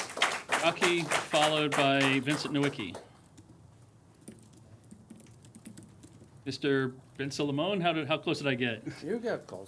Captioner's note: applause